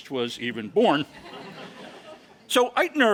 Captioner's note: laugh